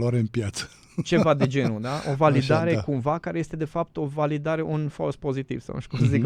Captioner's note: laughter